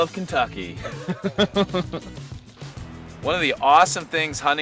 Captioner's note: laughs